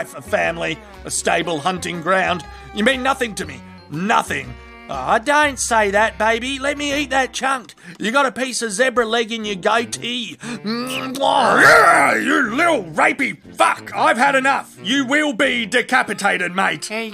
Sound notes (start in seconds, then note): 11.4 angry Lion Growl